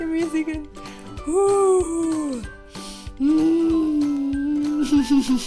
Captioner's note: breathing noises; laughs